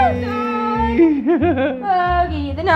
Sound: laughing

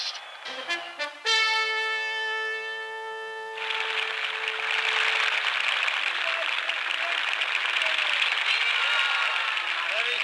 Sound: applause, cheers

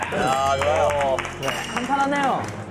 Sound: applause

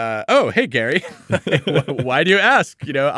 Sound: laughing

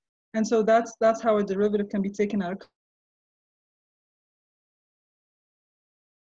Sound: silence

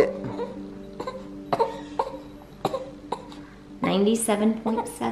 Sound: coughing

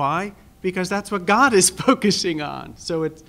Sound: laugh

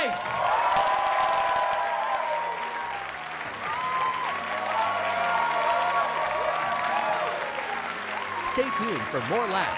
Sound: cheers and applause

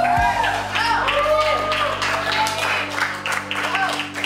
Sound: uplifting, soft music; crowd cheers and claps

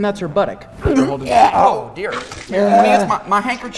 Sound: vomit noises

